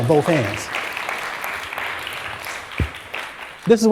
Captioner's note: applause